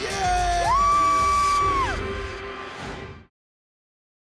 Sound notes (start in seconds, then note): 0.0 cheering; 1.6 whoosh